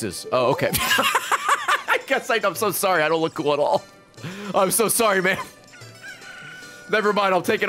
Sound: laughs

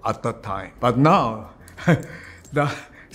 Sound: chuckles

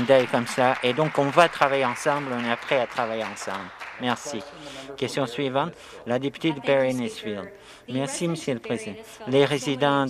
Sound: some Applause

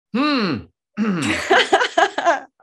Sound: Sebastian clears throat; Daisy laughs

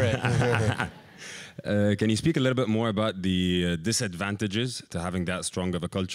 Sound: laugh

